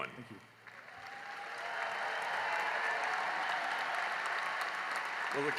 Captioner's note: cheering and applause